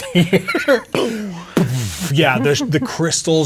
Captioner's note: imitates explosion